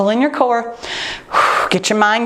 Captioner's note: exhales